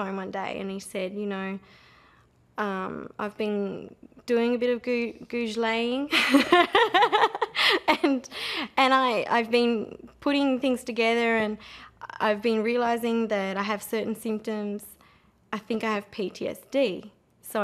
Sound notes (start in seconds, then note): 6.1 laughter